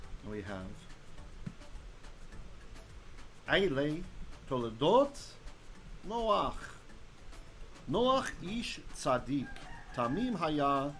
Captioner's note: Hebrew